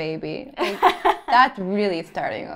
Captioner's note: laughter